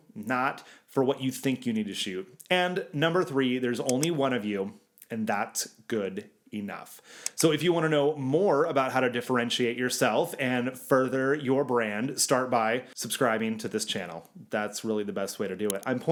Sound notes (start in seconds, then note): 3.8 clicking; 7.2 clicking